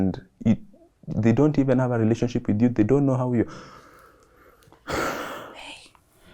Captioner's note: sighs